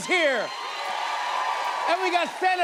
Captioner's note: cheers and applause